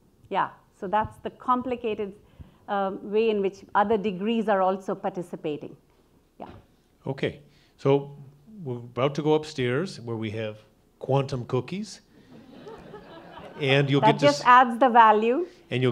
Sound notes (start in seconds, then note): 12.2 audience laughing